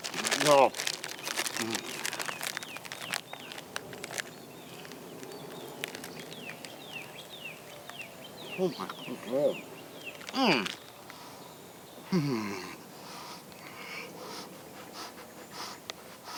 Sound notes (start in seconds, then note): 0.0 paper crackling; 3.6 birds chirping; 13.6 Luke panting